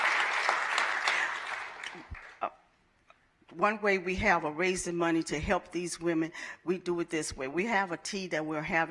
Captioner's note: applause